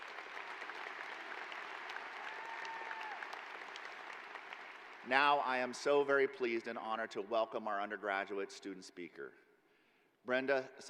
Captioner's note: applause